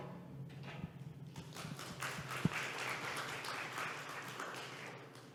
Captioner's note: audience applauding